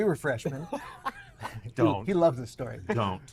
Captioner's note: Patrick laughing